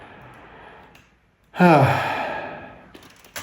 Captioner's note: le sigh